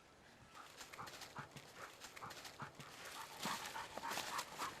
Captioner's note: dog panting